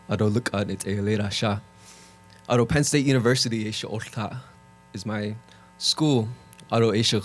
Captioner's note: Speaking Navajo